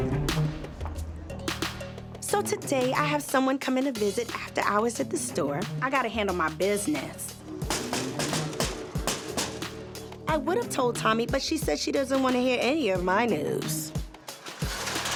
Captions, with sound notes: (mellow music) - Today I have someone coming to visit after hours at the store. I got to handle my business. (knocking) I would have told Tommie, but she said she doesn't want to hear any of my news.